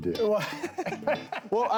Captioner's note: laughing